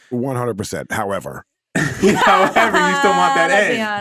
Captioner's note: everyone laughing